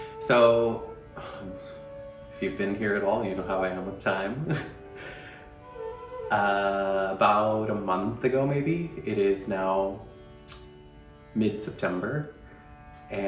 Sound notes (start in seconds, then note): 4.4 laughs